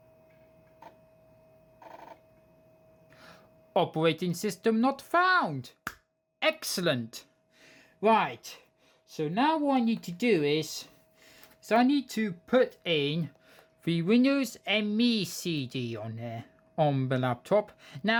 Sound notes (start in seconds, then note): 1.7 laptop floppy drive sound